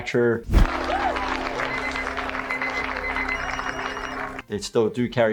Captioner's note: crowd applauding; pager beeping